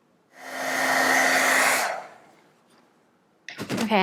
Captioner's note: air blows